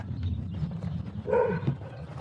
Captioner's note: dog barking